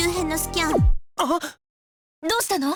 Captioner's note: gasp